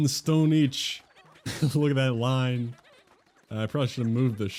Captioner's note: laughs